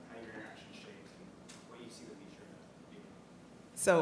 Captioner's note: speaks faintly